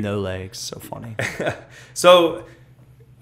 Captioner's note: laughs